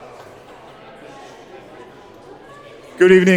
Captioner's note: congregation chattering